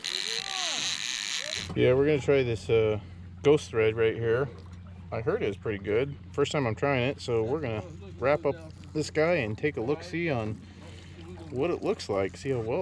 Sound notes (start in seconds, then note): 0.0 reel cranking; 0.8 background chatter; 2.6 reel cranking